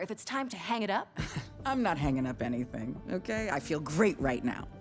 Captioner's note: chuckles